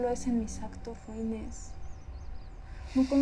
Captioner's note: birds chirping